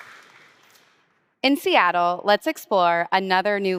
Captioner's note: applause